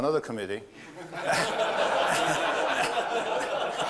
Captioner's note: laughter